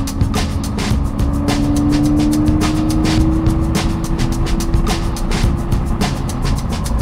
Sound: car engine revving

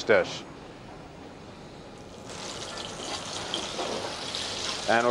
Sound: sizzling

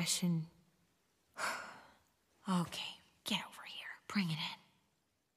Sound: sighs

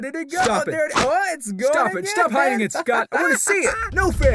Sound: laughs

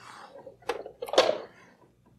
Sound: clunk

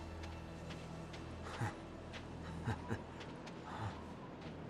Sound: laughs

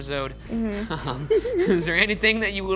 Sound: all laughing

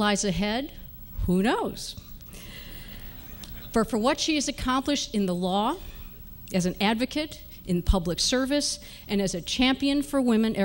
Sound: laughter

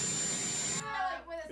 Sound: helicopter idling sound

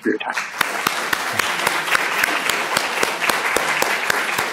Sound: audience clapping

